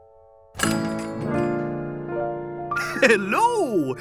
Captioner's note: bell rings